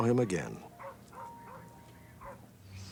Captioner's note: dog barking